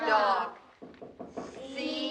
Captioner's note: tapping